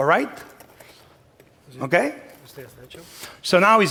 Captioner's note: speaking spanish